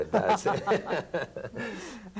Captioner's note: laughter